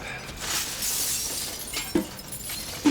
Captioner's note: clattering and tinkling